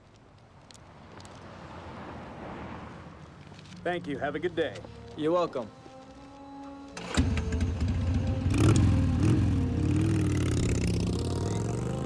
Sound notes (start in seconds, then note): 7.0 engine revving